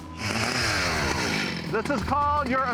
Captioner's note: chainsaw buzzing